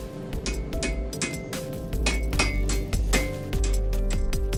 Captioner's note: hammer clanking